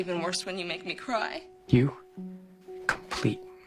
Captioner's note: soundbite of film, "jerry maguire"